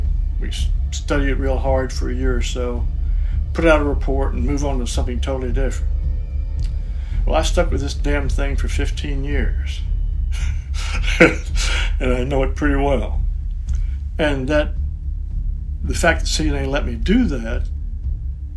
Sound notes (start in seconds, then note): 10.3 laughs